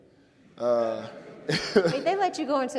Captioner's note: audience laughing